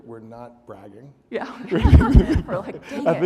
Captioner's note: audience laughing